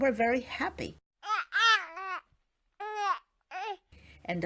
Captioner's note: baby gurgling